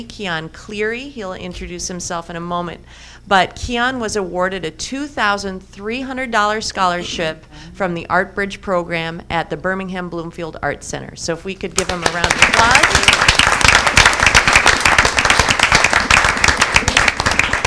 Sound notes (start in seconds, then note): 11.8 audience applauding